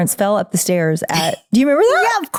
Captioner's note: laughing